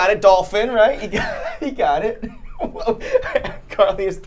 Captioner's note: laughs